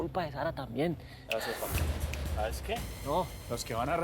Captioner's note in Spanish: tronando los dedos